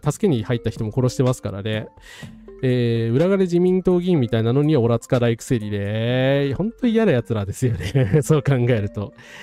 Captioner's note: laughs